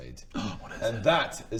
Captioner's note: gasp